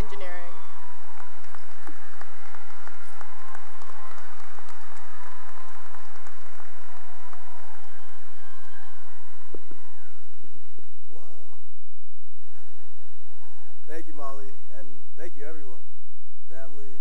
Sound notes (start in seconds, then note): 0.0 cheering; 0.0 cheering and applause